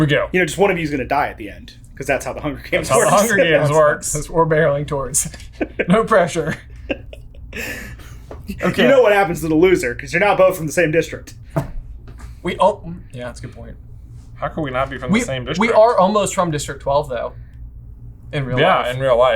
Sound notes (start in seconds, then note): 6.8 laughing